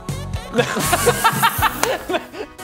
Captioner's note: mocking laughter